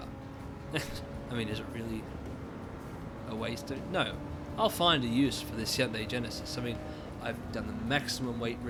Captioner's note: chuckling